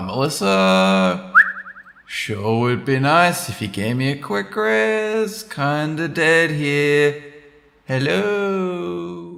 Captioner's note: whistle